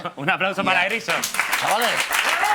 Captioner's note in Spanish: Aplausos